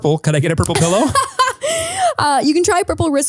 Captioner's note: laughing